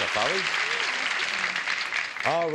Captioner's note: applause